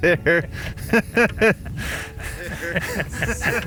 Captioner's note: laughs